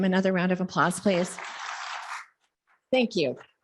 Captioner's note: audience applauding